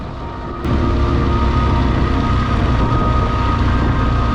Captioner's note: engine rumbling